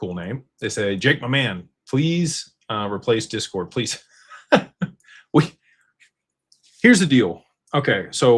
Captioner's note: laughter